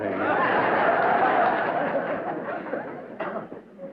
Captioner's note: laughter